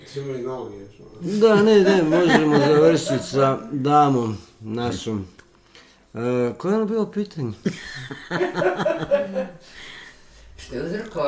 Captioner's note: laughter